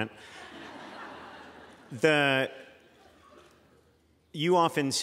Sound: laughter

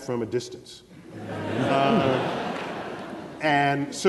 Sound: laughter

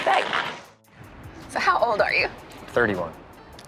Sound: snow crunching under skates

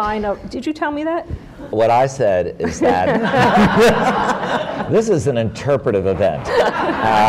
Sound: laughter

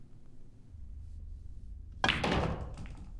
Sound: billiard balls clatter

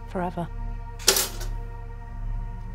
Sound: toast pops

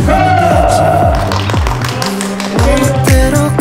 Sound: clap Clap

